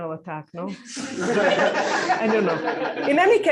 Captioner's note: laughter